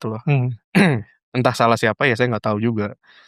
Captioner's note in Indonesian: berdehem